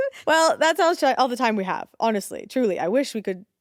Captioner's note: none